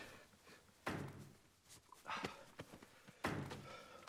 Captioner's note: lee hitting stapler